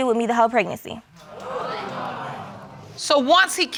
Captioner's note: audience exclaims